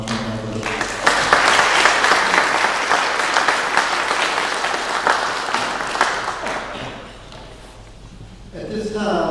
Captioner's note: clapping